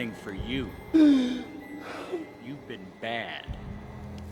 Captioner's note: sobs